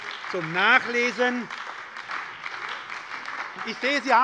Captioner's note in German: Beifall bei der SPD